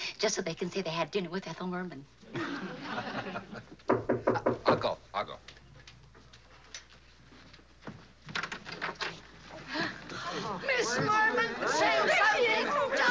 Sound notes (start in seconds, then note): 2.3 laughing; 3.8 knocking at door